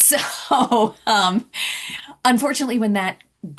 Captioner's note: laughter